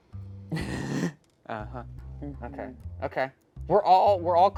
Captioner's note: chuckles